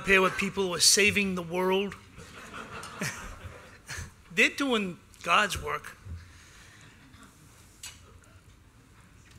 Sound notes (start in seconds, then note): 2.2 laughter